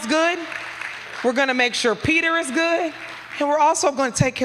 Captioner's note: applause